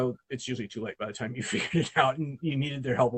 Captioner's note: laughs